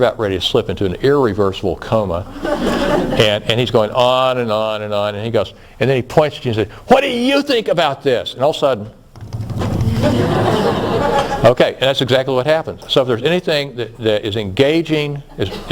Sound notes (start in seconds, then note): 9.1 tap tap tap tap tap